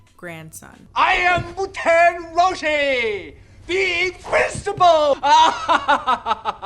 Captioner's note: laughs